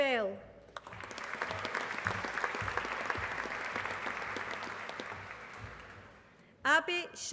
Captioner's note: applause